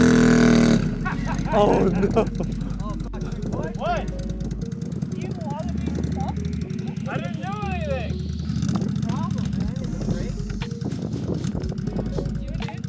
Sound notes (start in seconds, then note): 0.8 laughing